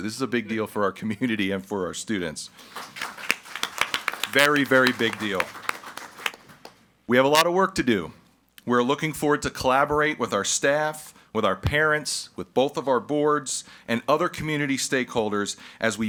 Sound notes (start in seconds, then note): 2.5 audience applauds